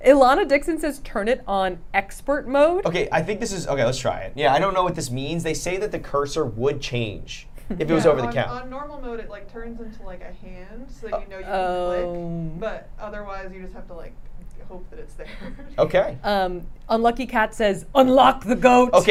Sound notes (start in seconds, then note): 15.6 laughs